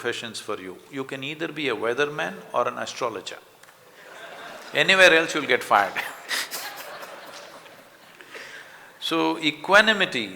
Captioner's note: laughter